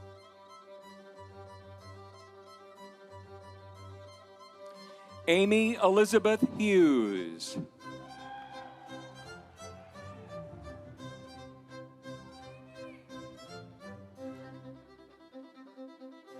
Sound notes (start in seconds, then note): 7.9 audience cheering; 8.2 instrumental music